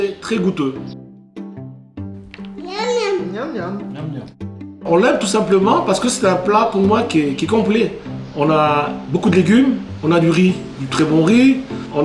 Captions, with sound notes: - Yum, yum. - Yum, yum. - Yum, yum. (speaking in foreign language)